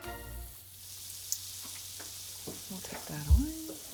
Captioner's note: meat sizzling